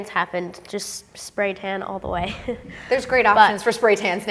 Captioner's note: laughs